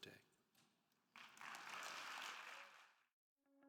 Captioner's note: attendees applauding